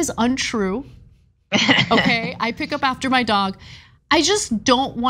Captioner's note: laugh